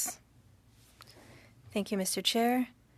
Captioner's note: speaking French